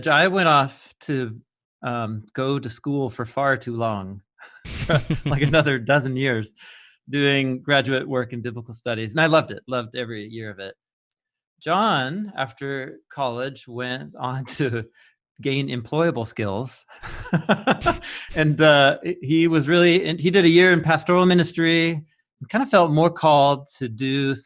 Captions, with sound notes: I went off to go to school for far too long, (men laughing) like another dozen years doing graduate work in biblical studies. And I loved it, loved every year of it. Jon, after college, went on to gain employable skills (laughing) and he was really, and he did a year in pastoral ministry. We kind of felt more called to do